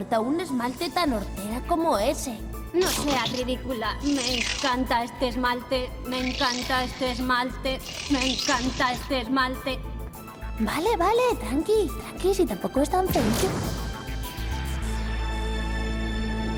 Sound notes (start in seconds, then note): 7.9 voice fluctuates; 13.1 boom